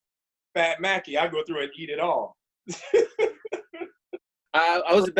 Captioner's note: laughs